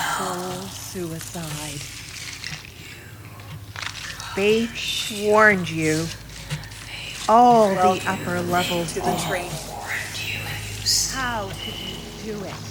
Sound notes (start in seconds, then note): 0.6 sound of ice freezing, cracking; 8.2 whispering voices speak on top of voice